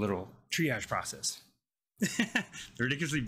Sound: laughing

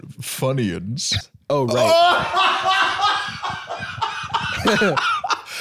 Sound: in hysterics

